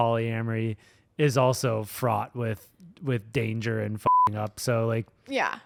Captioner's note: beep